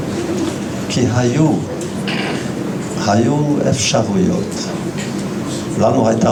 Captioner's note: clearing throat